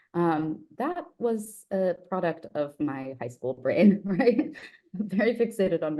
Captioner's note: giggles